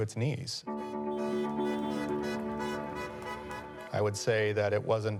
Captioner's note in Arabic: صوت بوق السيارة